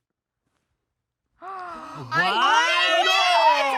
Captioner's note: gasps